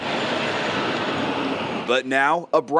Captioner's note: car